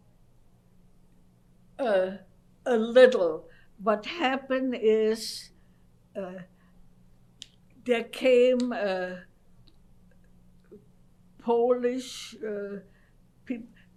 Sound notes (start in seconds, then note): 5.3 pauses for 3 seconds